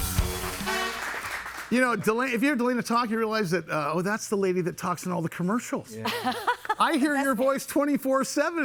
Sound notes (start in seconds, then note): 6.0 laughing